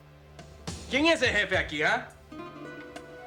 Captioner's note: speaking spanish